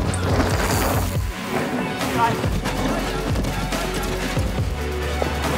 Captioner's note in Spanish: cadena de bicicleta zumbando